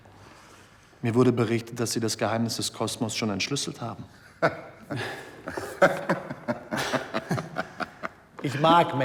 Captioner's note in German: gelächter